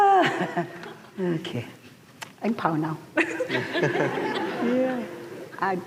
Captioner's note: laughter; laughter